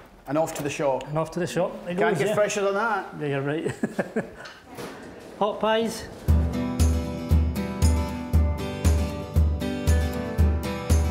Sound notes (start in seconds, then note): 3.6 laughing; 6.2 lighthearted guitar music